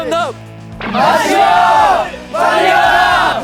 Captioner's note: there is more cheering